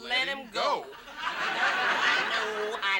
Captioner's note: audience laughs